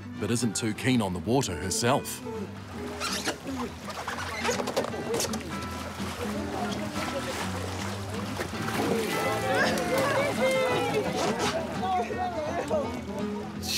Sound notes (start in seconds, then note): 2.9 rubber board squeaks; 8.9 cheering, laughter